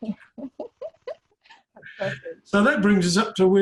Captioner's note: laughs